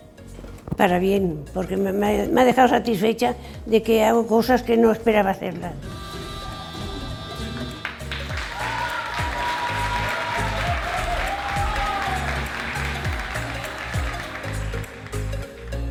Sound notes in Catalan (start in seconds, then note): 7.8 Aplaudiments i aclamacions; 14.6 Música animada